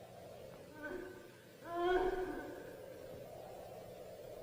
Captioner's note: woman moaning